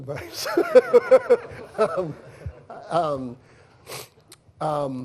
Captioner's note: laughter